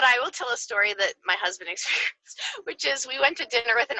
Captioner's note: laughs